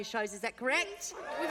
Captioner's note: cheering and applause